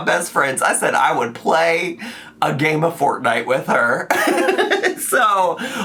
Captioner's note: laughs